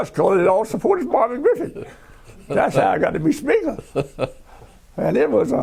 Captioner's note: laughter